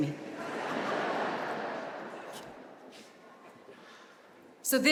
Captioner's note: audience laughing